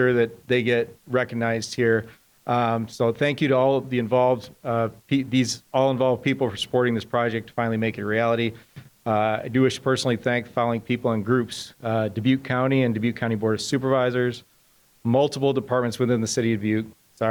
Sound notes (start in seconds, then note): none